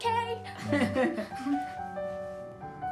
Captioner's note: laughs